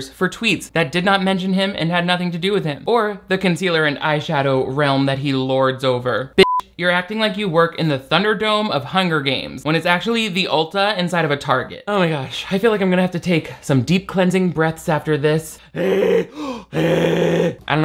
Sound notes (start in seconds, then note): 6.4 beep; 15.6 wheezing